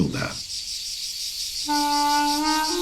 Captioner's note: insects chirring